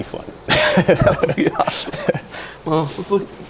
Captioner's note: laughing